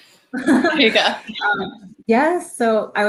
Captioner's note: chuckling